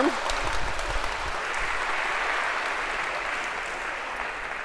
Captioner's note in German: applaus